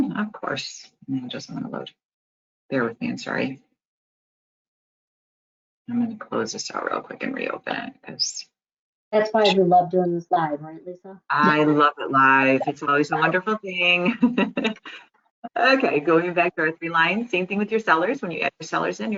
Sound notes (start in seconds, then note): 15.0 laughs